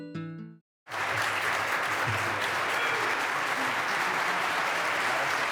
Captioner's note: applause